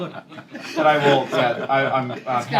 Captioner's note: laughter